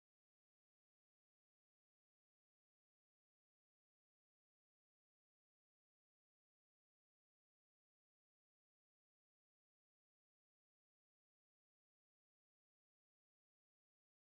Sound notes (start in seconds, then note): none